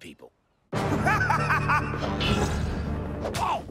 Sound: maniacal laughter

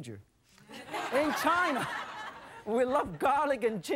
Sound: crowd; laughter

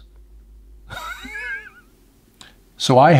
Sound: chuckles

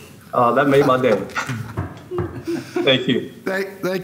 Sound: laughter

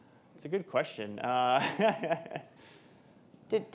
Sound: chuckles

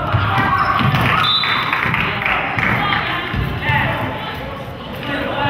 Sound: whistle blows

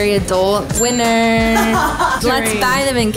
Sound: bell rings

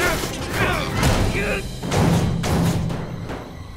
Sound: grunting; thudding

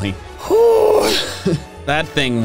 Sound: breathes a sigh of relief

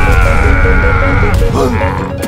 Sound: The F4U-4B screams; The Pz.III M gasps

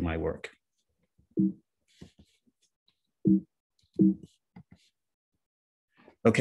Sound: computer beeping

